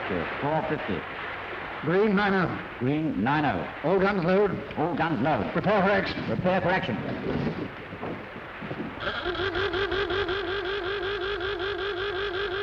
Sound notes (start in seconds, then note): 9.0 blaring